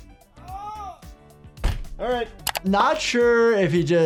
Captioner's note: groans